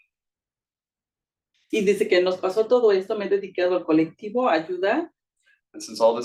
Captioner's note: speaking Spanish